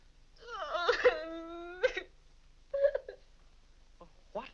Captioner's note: Vinnie cries